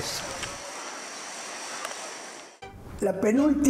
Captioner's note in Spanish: sonido de avion